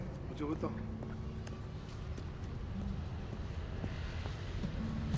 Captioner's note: Roland speaking in Spanish